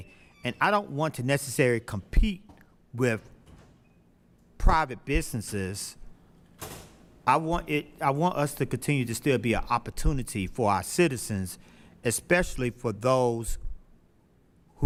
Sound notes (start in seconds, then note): 5.7 door opens and closes